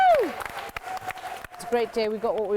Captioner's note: applause